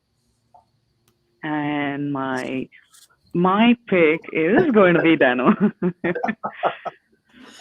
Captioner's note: all laughing